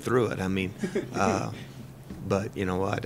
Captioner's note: laughter